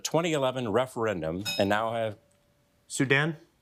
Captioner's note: bell dinging